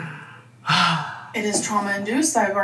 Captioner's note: sighs